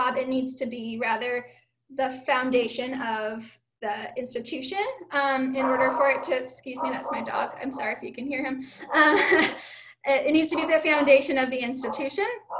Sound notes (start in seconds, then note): 5.6 dog barking; 8.8 chuckling